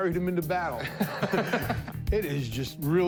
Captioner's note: laughter